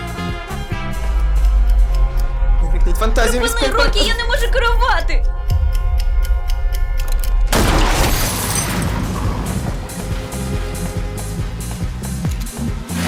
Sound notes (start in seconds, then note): 0.9 clock ticking; 6.3 gunshot; 6.3 clock ticking; 7.5 tires squeal